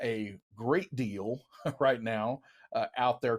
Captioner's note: chuckles